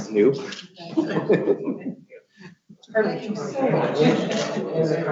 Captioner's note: laughs